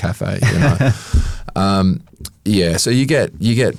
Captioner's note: chuckles